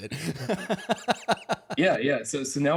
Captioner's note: chuckles